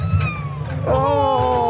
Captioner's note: cat meows